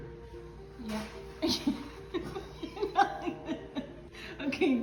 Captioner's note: laughing incessantly